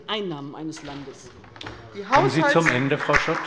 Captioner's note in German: Beifall bei der LINKEN